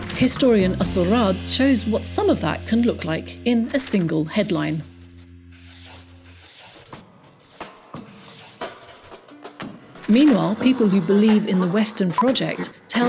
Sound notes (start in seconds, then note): 4.8 pen scribbling; 4.8 soft, dramatic music